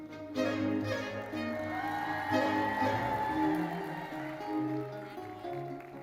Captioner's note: audience cheering and applauding